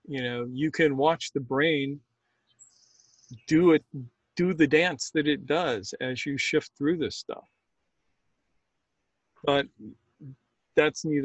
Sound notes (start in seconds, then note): none